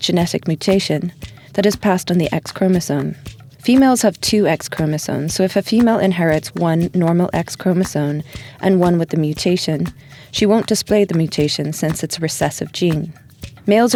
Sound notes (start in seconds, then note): none